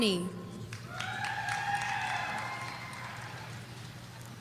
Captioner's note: audience cheering